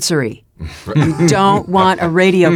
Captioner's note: laugh